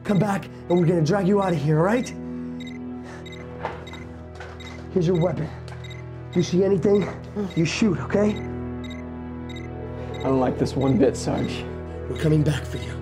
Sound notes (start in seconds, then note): 3.2 beeping continues